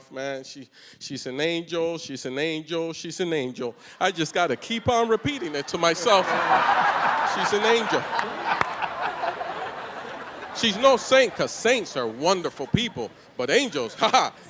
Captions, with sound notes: She's an angel, she's an angel, she's an angel. I just got to keep on repeating it to myself. [ Laughter ] She's an angel. She's no saint, 'cause saints are wonderful people. But angels, ha-ha, every once in a while,